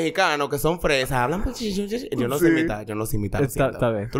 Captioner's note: laughs